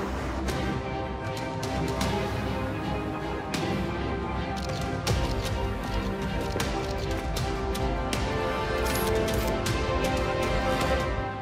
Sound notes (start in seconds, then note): 0.7 dramatic music playing; 4.1 camera shutter clicking